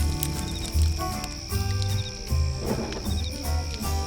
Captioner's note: match scratching; fire crackling